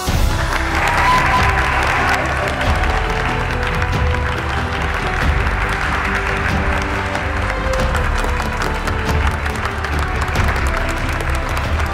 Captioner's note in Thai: เสียงปรบมือและโห่ร้องดีใจ; เสียงปรบมือ